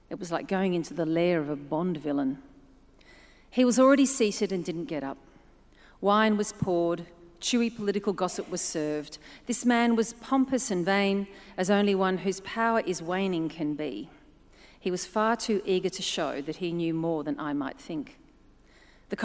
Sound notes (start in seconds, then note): none